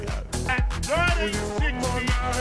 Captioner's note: chattering